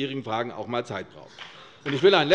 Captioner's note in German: Beifall bei der CDU und dem BÜNDNIS 90/DIE GRÜNEN